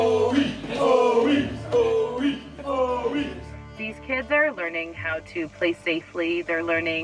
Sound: chanting

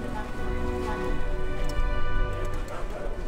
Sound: none

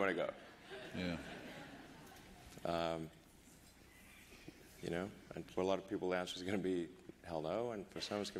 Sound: laughter

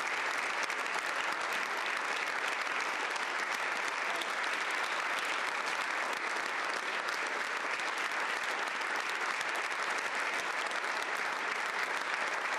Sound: applause

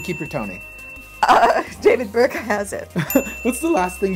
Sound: giggles

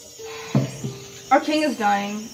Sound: table thumps

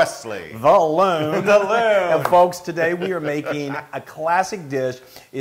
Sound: laugh

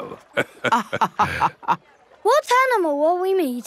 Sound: both laughing

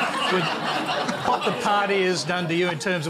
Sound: laughter

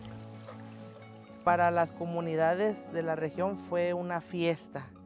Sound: speaks Spanish

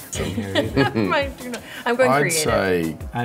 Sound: laughs

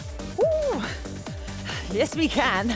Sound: exclaiming

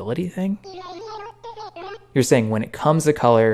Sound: "my guy" continues in Animalese

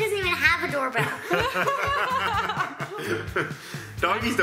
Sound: laughs

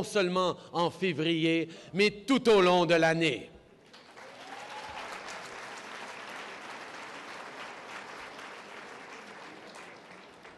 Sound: applause

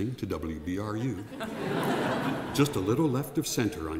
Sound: laughing

